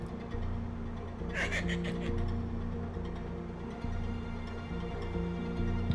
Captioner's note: leprechaun laughing